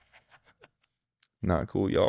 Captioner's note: laughing